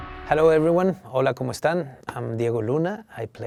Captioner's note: speaking in a foreign language